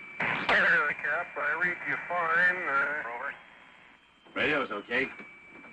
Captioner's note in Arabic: أصوات راديو مكتومة